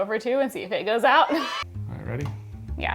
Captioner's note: kids cheering